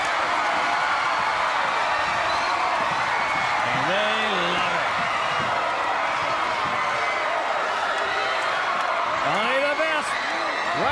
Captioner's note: crowd cheering